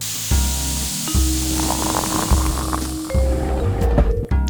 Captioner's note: relaxing music; steam hissing